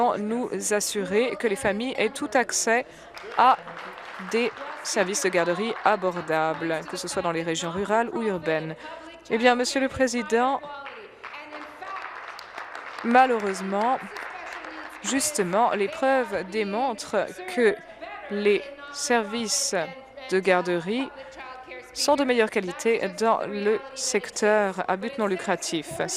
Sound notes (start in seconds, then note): 6.2 applause; 15.6 applause